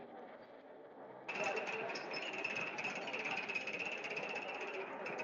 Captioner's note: people chattering